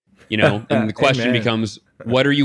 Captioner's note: laughs